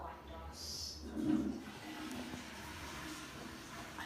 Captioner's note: toilet flushes